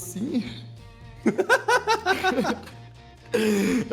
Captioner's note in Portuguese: risos